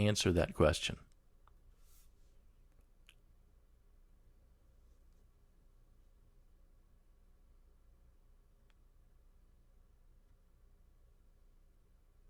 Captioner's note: pause